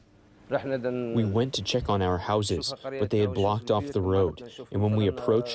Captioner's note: through translator